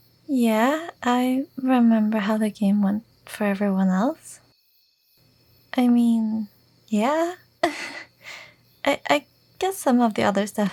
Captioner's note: chuckle